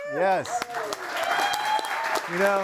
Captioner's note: audience cheering